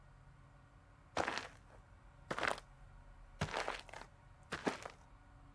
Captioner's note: footsteps crunching